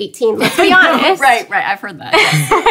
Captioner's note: laughing